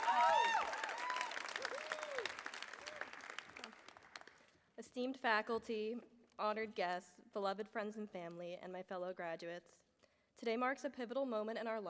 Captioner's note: cheering; applause